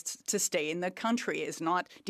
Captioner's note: speaking French